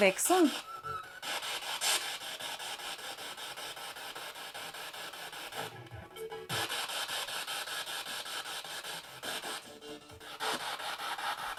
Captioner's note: sound of the Spirit Box in the background